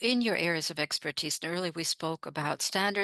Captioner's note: speaking French